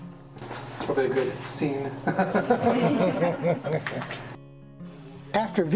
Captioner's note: laughter